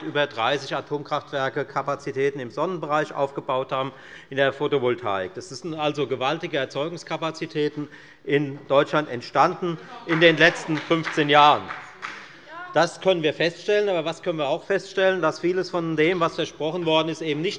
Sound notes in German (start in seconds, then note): 9.9 Beifall bei der FDP